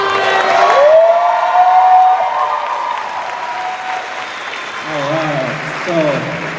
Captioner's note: cheers and applause